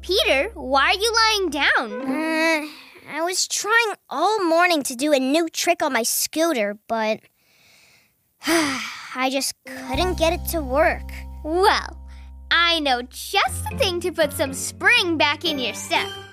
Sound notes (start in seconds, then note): 8.4 sighs